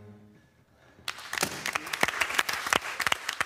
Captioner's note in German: Applaus